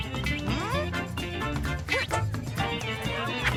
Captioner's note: squirrels chirping; grunts